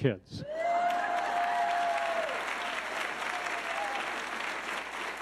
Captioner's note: audience cheering